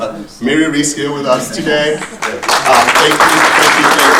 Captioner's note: audience applauding